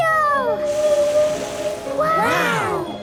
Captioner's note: gasps; whale calling